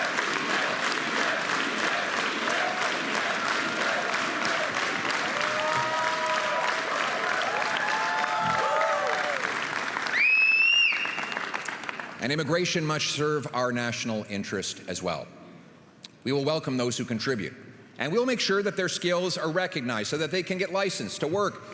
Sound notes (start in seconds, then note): 3.5 rhythmic clapping; 6.4 crowd chanting